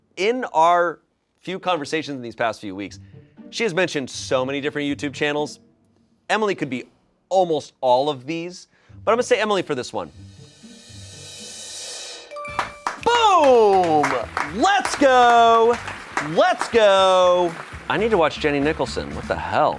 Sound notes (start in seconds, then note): 10.4 drum roll hisses; 12.4 bell chimes; 14.6 crew applauds